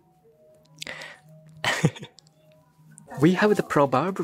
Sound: laugh

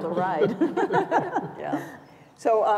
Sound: laughter

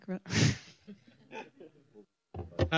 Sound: laughter

